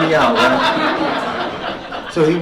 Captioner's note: laughter